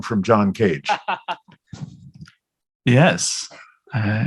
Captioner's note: laughter